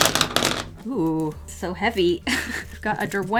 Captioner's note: laughs